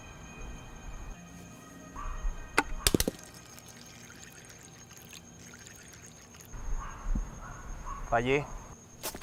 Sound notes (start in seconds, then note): 2.6 sound of silencer bullet hitting cup; 5.7 liquid coming out of cup to the floor